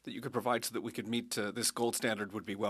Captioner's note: speaking French